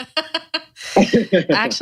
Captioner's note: laughs